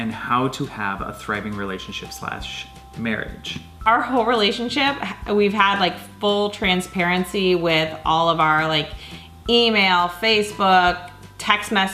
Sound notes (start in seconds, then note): none